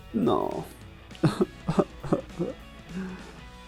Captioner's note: ꜱᴏᴜɴᴅꜱ ᴏꜰ ᴅɪꜱᴀᴘᴘᴏɪɴᴛᴍᴇɴᴛ